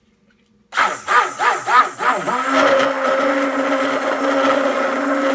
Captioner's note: blends with stick blender